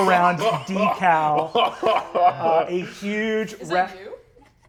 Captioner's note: laughing